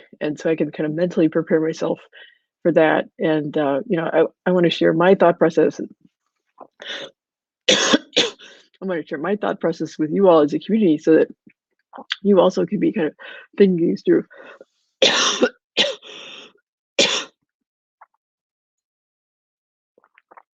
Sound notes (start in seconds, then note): 14.9 coughing